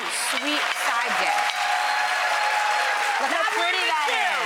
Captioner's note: audience applauds